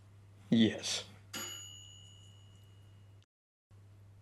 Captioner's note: toaster dinging